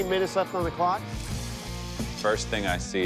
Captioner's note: grinder whirring